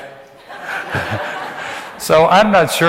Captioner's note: audience laughs; laughs